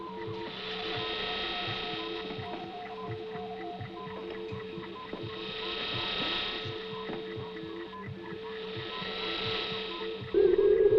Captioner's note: whirring of electronics